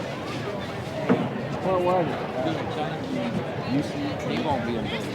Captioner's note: indistinct chatter